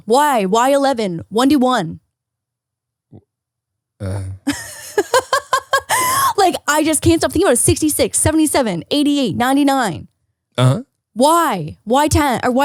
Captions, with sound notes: Why 11, one to one. (laughs) Like I just can't stop you thinking of it. 66, 77, 88 99. Why, why 11?